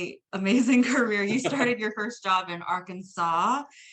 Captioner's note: laughs